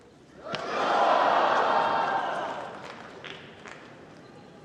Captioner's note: crowd